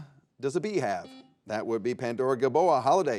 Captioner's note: buzzer dings